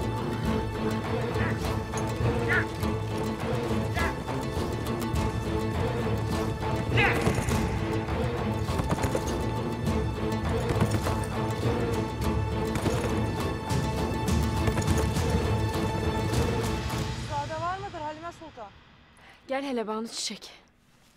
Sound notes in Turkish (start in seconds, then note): 0.0 Müzik devam ediyor; 6.8 Bağırma sesi; 15.7 Müzik devam ediyor